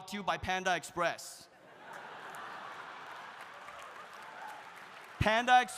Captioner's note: audience laughs; audience applauding